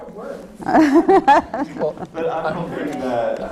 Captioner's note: laughter